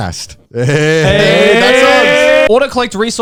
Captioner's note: all laughs